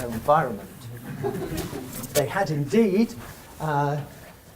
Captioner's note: audience chuckles